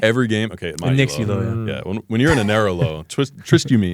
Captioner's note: laughs